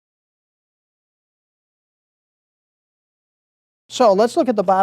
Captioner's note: silence